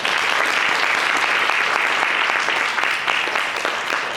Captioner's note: audience applauds